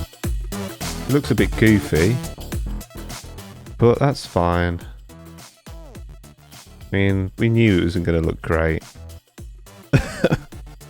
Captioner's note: laugh